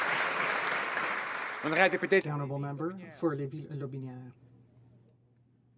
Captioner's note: some Applause